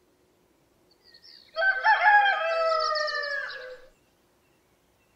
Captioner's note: Nature Sounds